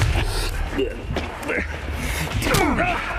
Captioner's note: Jason grunts; Jason groaning